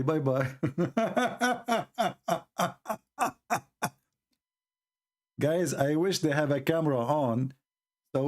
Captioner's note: Ketawa